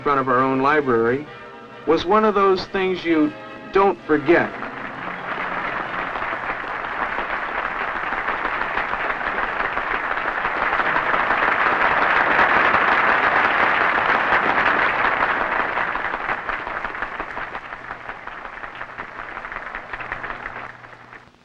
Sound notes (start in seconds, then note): 5.2 applause